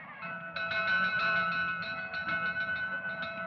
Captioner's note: bell Ringing